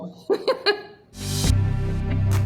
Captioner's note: laughs; upbeat music